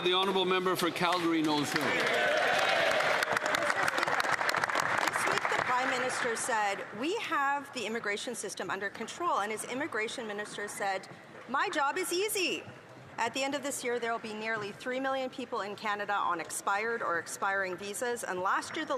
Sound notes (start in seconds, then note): 0.9 applause